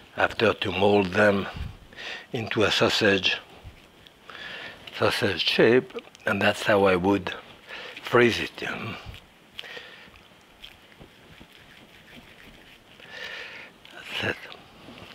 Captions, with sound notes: after to mold them into a sausage, sausage shape. And that's how I would freeze it. (raw meat smashing)